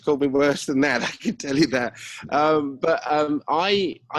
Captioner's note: laughs